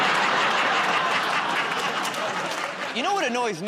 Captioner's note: laughter